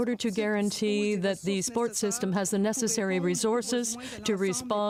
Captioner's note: speaking french